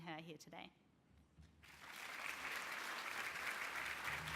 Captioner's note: applause